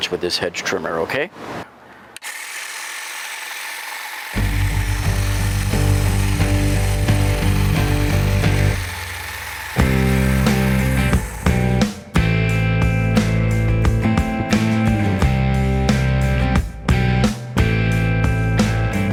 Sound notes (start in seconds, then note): 2.7 hedge trimmer whirring; 4.4 upbeat music